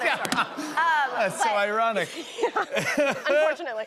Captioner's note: laughs